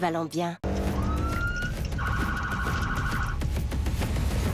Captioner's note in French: sirène